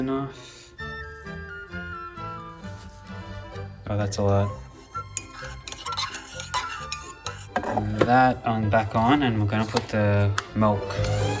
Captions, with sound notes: (upbeat jazzy music) That's a lot. (stirring sound) That on, back on, and we're going to put the milk.